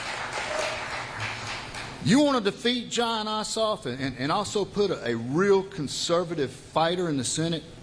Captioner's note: applause